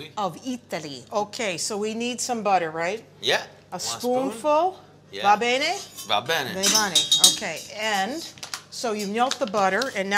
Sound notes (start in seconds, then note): 5.1 italian